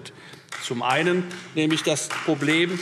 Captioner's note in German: Beifall Freie Demokraten